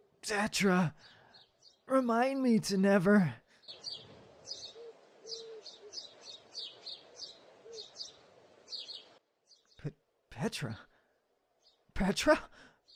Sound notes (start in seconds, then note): 3.6 birds chirp